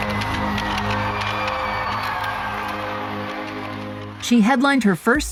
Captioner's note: audience applauding and cheering